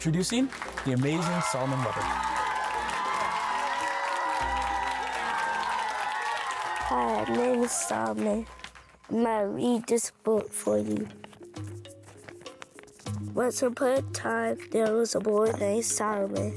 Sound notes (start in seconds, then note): 2.8 applause